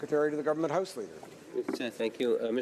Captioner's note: speaking French